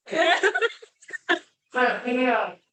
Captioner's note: laughter